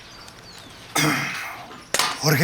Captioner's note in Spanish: carraspea